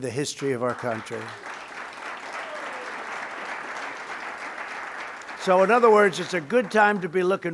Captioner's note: applause